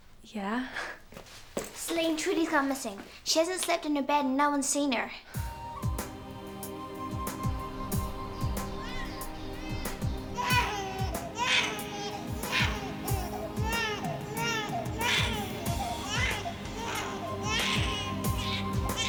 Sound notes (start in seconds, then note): 8.3 light music; 11.1 wailing